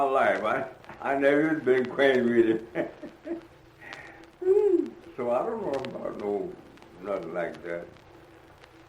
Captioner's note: laughs